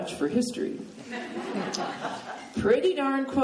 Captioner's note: laughing